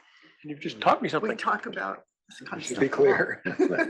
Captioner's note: laugh